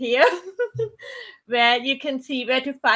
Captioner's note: laughs